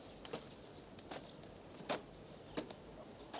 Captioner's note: chirping